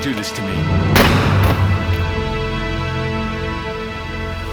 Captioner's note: gun firing